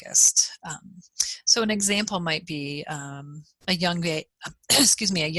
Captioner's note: coughs